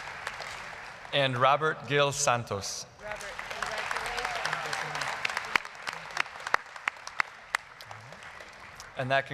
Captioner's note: applause; applause